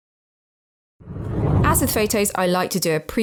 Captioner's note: video effect whooshes